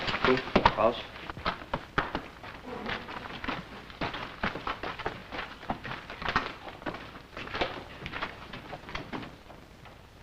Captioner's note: footsteps